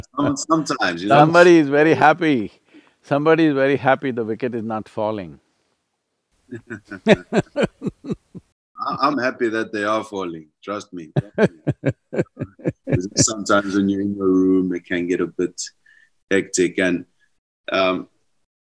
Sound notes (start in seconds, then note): 6.5 both laugh; 11.1 Sadhguru laughs